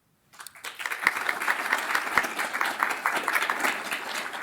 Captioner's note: audience applauds